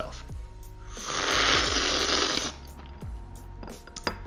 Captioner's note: slurping